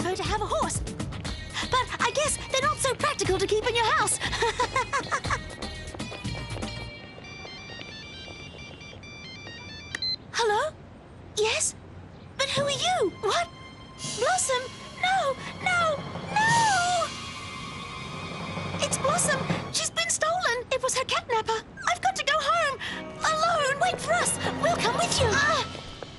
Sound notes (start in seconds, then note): 4.2 laughs; 7.0 cellphone ringing